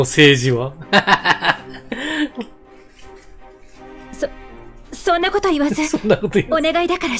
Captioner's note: laughs